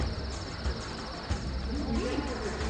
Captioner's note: crickets chirp